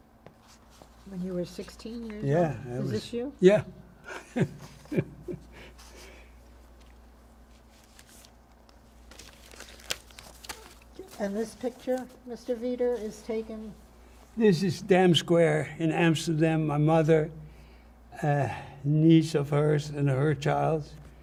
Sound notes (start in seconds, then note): 4.0 laughing; 5.3 pauses 6 seconds